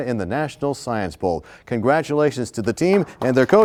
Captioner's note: applause